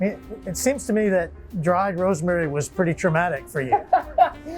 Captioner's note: laughing